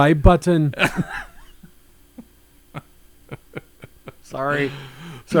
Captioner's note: laughs